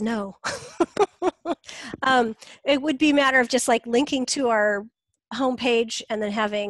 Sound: laughs

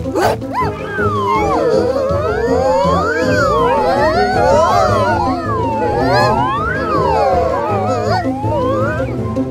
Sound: screaming

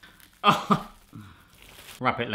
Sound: laughs

